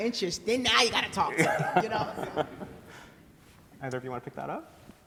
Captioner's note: laughter